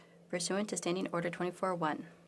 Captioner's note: speaking French